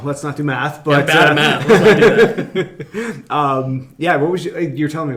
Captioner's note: laughing